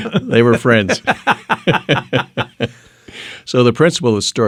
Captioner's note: laughing